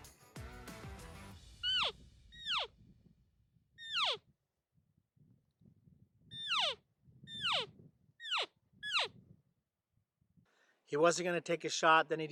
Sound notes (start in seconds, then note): 1.5 elk call